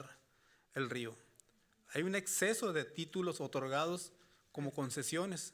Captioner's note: speaking Spanish continues